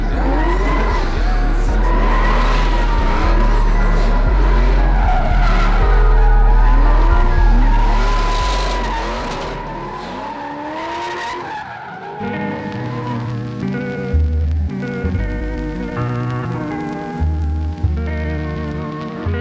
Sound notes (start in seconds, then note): 4.7 engine roaring; 12.2 soft mellow music